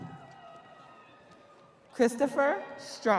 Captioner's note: audience cheering